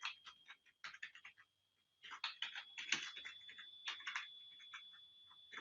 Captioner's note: keyboard typing